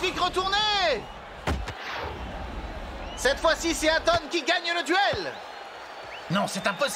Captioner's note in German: beifall